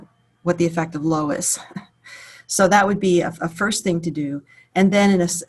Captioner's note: chuckles